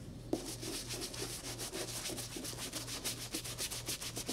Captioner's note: brush scrubbing